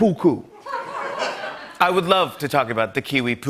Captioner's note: laughter